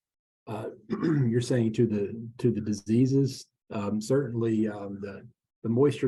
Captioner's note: cough